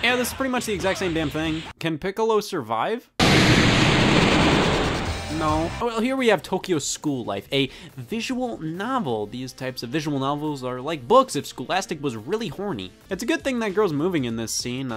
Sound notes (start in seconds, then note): 3.2 loud explosion